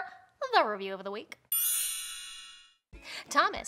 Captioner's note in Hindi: घंटी की आवाज़